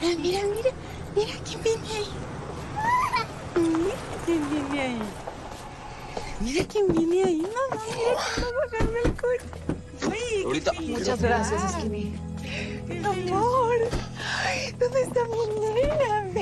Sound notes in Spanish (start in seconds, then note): 2.8 Santita ríe